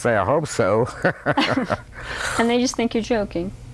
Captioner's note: laughter